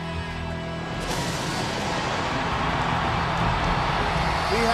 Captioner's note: thunder rattling